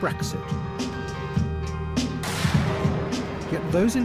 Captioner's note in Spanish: explosión